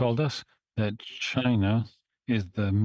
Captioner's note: speaking French